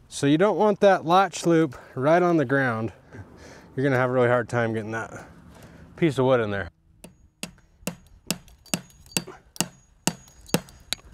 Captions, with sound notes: So you don't want that latch loop right on the ground. You're gonna have a really hard time getting that piece of wood in there. (hammer clanging)